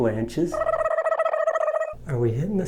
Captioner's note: laughing